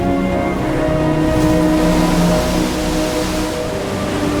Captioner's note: waves crashing; soft dramatic music continues